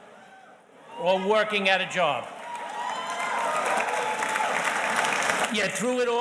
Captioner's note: audience cheers and applauds